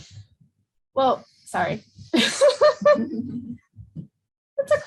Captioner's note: laughs